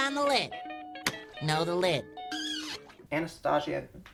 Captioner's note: hand claps; hand squeaks